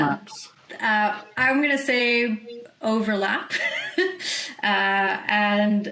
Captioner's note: chuckles